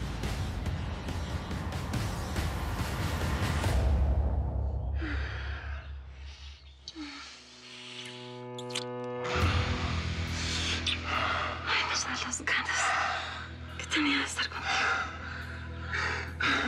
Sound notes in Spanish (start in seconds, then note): 5.1 suspiros